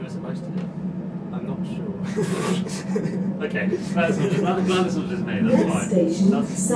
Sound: laughter

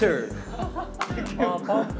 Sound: laughing

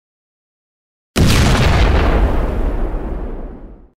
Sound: explosion!1!1!

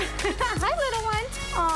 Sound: laughs

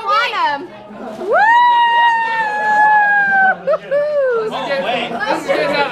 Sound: loud cheering

